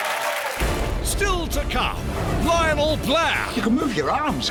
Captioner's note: voiceover